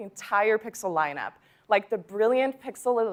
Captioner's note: none